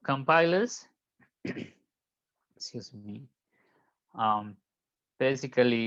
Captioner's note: clears throat